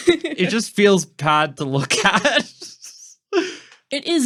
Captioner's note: laughing